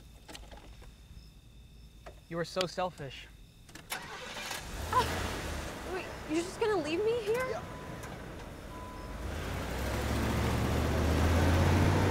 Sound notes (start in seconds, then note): 4.3 car engine rumbles